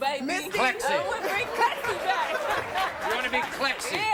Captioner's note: laughs